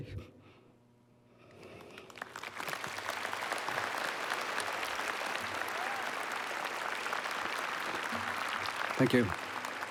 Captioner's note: applause